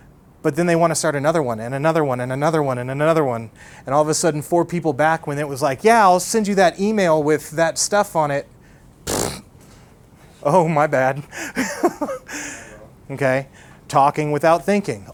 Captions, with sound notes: but then they want to start another one and another one, and another one, and another one, and all of a sudden, four people back, when it was like, "Ya, I'll send you that email with that stuff on it." (blowing raspberry) "Oh, my bad." (laughing) Okay, talking without thinking.